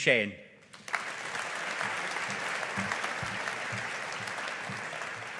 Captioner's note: audience applauding